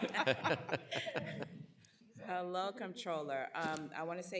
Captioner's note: laughter